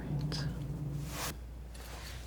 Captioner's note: scratching